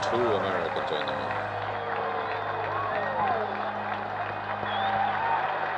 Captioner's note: cheers and applause